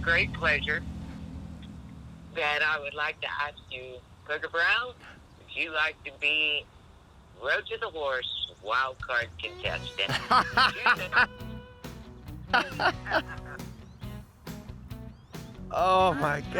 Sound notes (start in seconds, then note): 10.8 laughter